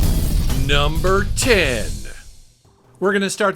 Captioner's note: explosion rumbles